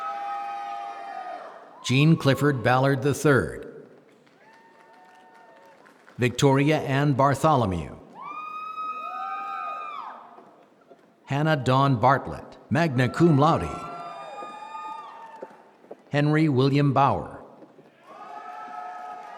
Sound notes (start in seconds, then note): 12.1 applause